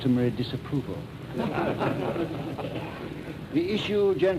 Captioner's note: laughter